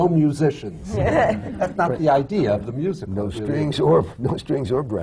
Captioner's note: laughter